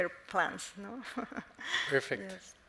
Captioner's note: chuckles